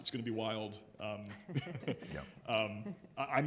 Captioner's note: chuckles